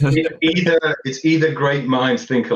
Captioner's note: laughter